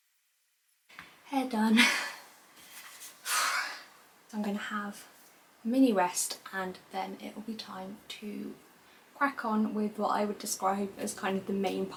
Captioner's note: sigh